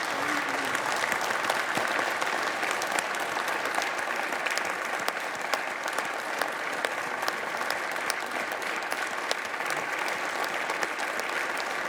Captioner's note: applause